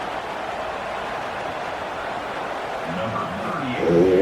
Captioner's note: crowd Noises